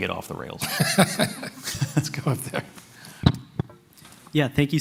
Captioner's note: laughs